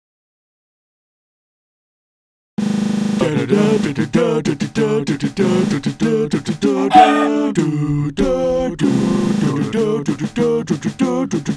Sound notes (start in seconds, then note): 6.9 squark!